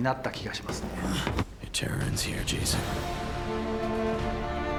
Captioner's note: in English